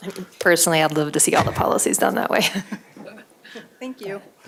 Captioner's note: laughter